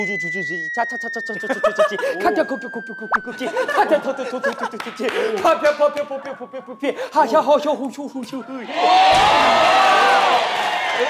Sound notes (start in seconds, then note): 6.9 breathless